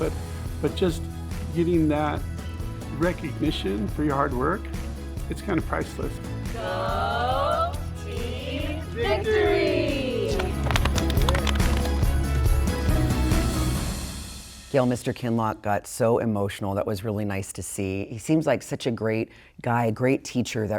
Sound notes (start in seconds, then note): 9.8 group clapping; 10.4 lively music